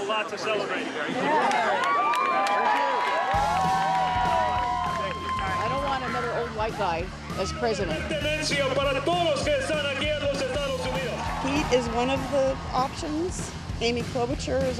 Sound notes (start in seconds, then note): 5.5 speaking Spanish